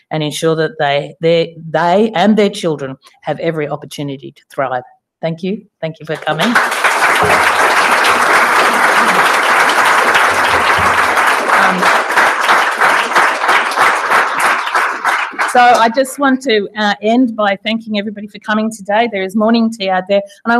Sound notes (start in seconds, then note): 7.1 applause